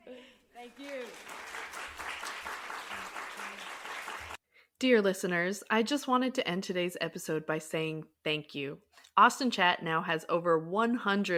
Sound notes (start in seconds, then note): 2.1 applause